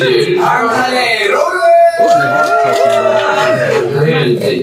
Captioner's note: Bangtan cheer